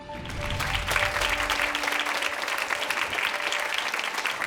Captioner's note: soft emotional music; audience applauding